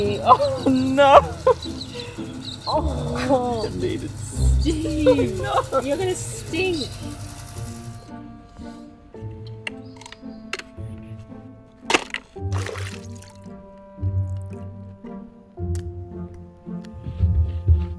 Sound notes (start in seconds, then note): 0.0 laughing; 2.7 groaning